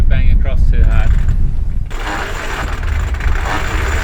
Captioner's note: chains clutching